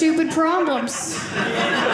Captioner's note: audience laughing